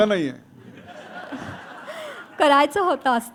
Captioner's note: laughter